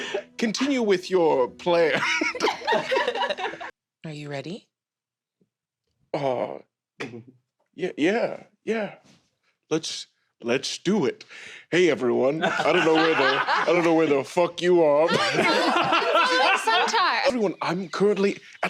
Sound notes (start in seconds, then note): 1.9 starts to laugh; 1.9 laughter; 12.4 laughter